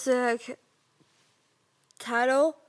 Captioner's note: rustling